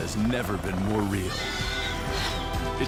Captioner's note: sfx: Raptor sounds